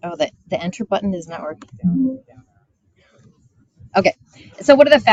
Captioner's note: button chiming